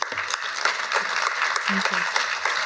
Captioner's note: applause